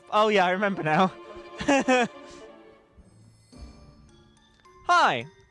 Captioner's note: laughs